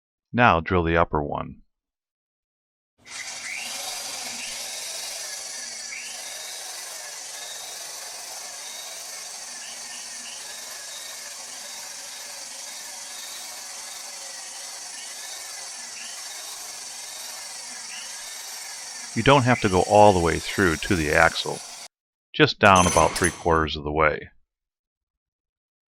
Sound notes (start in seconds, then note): 3.3 drilling noise